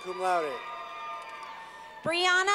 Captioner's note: clapping